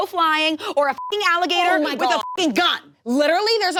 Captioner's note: beep